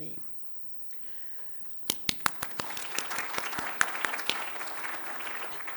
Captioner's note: applause